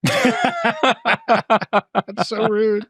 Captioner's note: all laughing